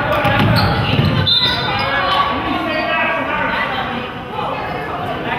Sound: whistle blows

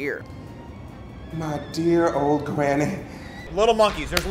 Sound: laughing

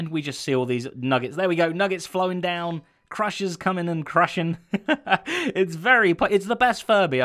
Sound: chuckles

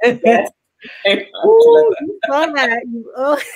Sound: laughs

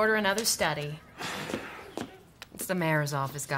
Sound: Eric sighs

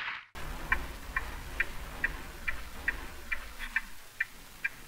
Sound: clock ticking

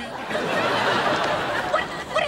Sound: audience laughing

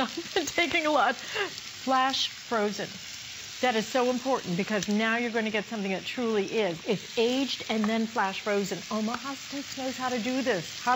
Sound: laughter

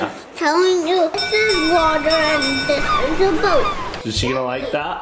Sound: bell rings

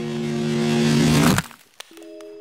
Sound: ice cracking

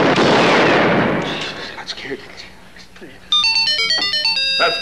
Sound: sons gasp

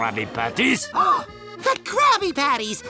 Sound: gasps

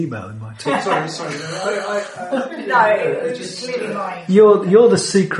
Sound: laughter

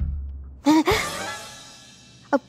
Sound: gasps

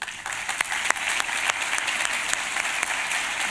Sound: applause

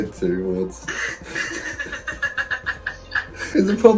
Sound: both laughing

